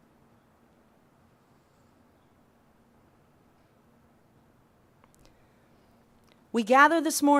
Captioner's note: pause